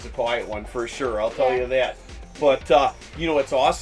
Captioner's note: none